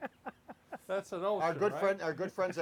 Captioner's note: laughs